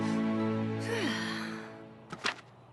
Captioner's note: sighs